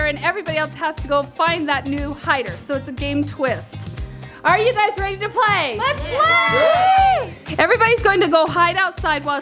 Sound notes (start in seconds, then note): 6.0 group Talking